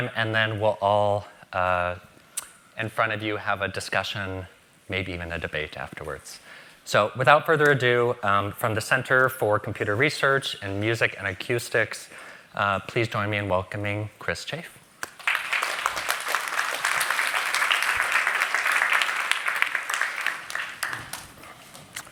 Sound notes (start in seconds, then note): 15.0 applause